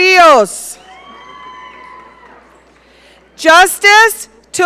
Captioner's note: audience cheering